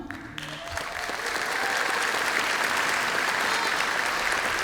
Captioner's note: applause